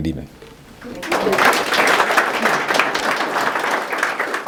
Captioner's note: audience clapping